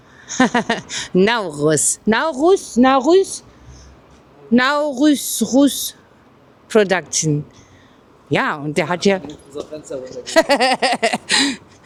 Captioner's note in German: gelächter; japst